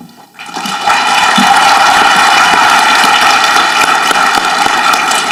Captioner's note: audience clapping